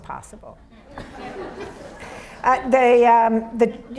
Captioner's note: audience laughs